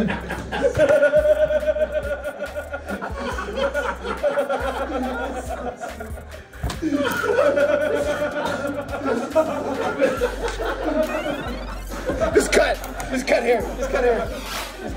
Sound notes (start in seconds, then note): 0.6 laugh